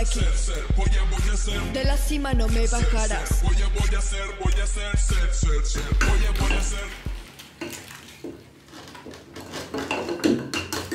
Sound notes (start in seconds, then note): 0.0 same hip hop song; 8.0 squishing and clinking bowl sounds